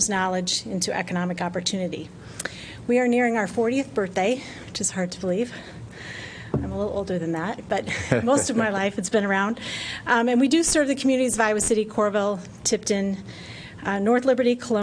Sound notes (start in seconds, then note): 7.8 laughter